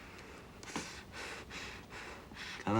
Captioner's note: breathing heavily